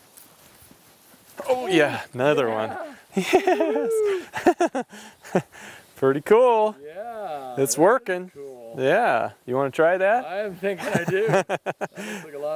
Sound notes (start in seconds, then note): 2.6 laughing; 10.8 laughing